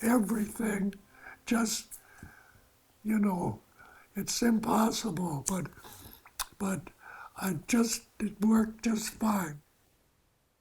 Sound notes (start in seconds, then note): none